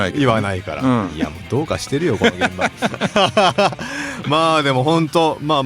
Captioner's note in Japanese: 笑い